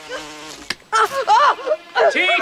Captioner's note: buzzing stops